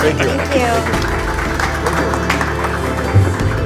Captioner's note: applause